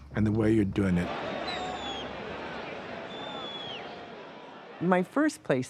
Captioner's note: crowd chattering